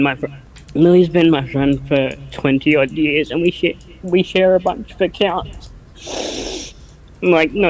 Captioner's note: chokes up; sniffling, crying